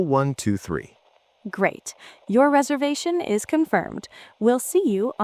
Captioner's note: receptionist voice